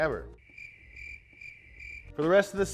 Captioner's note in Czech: cvrkot cikád